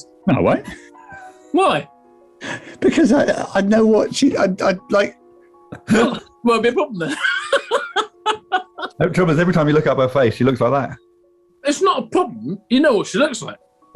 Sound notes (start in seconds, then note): 5.7 laughing